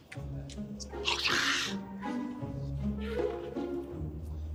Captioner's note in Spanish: Exclamaciones